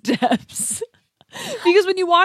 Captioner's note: laughs